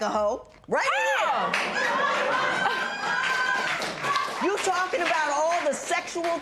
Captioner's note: laughter